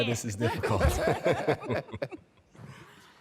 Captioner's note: laughter